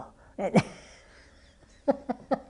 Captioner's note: laughter